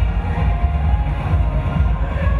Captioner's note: none